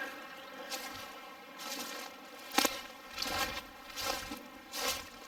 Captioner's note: leaves crunching